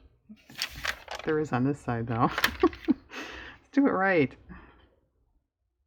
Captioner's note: laughs